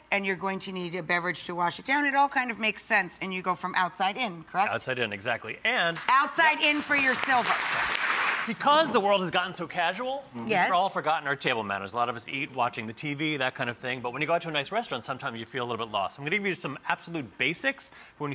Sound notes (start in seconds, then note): 6.6 applause